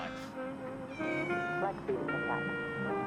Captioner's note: cat whines